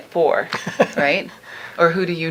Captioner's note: laughing